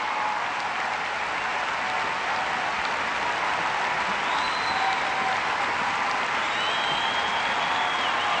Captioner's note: cheers and applause